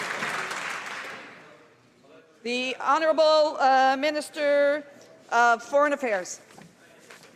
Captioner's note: some Applause